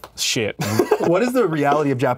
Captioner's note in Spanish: ríe